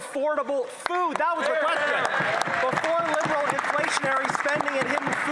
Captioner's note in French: voix de l'interprète